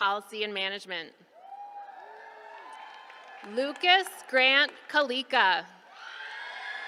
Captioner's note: applause